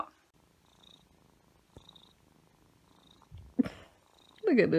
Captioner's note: cat purring